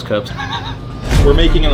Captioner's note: wheezing